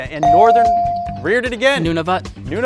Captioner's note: bell dings